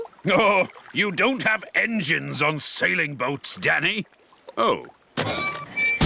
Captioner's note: chuckling